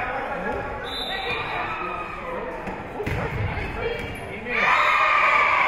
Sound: whistle being blown; spectators cheering; whistle being blown

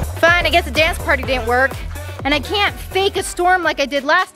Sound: none

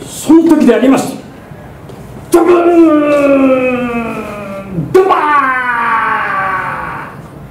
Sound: loud wave sound

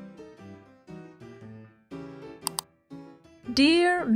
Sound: click

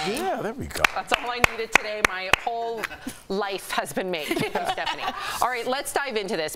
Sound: laughter

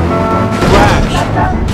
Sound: old music box; crash; old music box

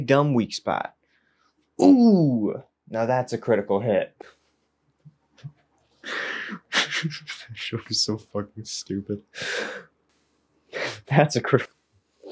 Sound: wince

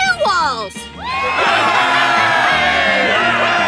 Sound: cheering

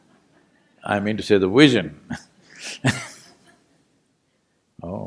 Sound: laughs

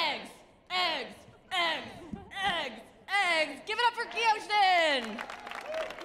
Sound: audience claps

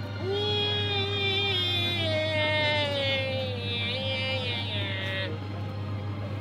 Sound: man continues to mimic the music comically

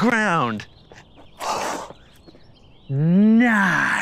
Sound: birds chirping

